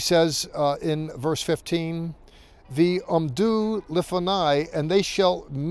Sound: speaking in Hebrew

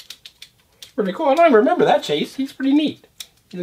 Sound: voiceover

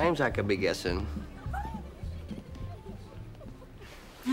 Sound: giggling

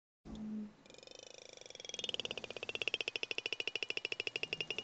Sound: whale clicking

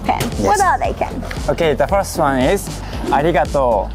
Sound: speaking in Japanese

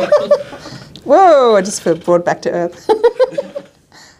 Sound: laughing

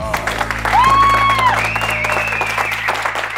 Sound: cheering

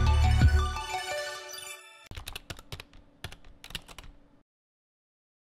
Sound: typing

